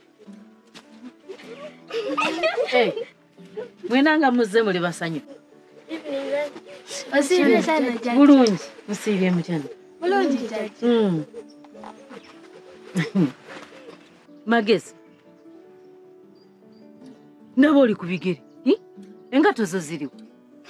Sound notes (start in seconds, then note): 1.2 chuckles; 12.9 chuckle